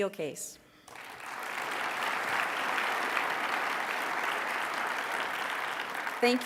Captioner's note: applause